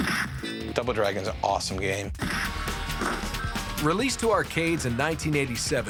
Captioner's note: punching